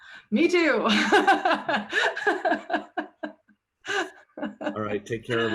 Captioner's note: laughing